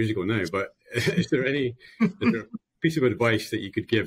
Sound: laughs

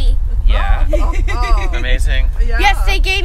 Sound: laughter

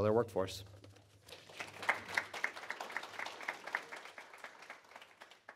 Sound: applause

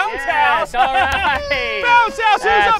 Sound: laughs

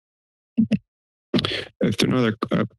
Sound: mic thumps

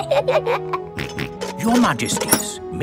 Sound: both giggle; snorts

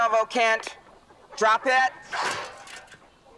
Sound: shovel clatters

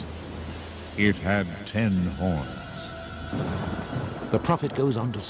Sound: wind blowing swiftly; dramatic music

